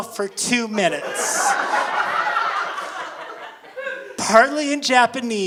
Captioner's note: audience laughing